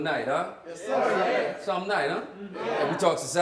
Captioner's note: crowd